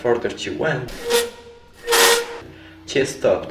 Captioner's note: screeching sound